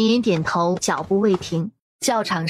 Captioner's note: steps